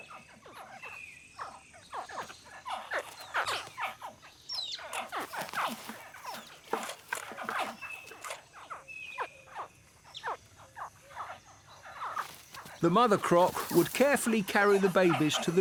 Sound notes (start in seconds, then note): 2.0 crocodiles continue to chirp